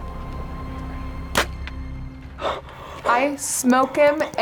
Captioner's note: arrow whooshing